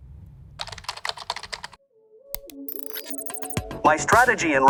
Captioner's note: typing sounds; upbeat music